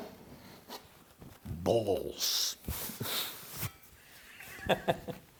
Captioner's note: laughing